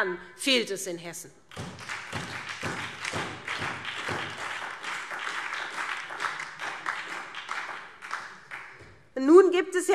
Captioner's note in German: Beifall SPD